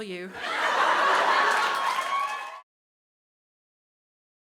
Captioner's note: crowd cheers